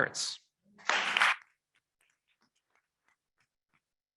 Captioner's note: members clapping